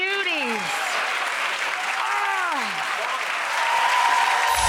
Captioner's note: audience cheering